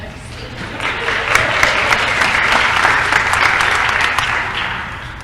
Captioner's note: applause